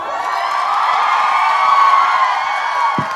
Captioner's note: crowd cheers